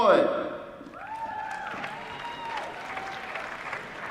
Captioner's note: applause